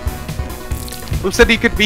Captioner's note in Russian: none